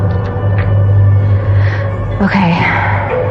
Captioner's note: exhxhalales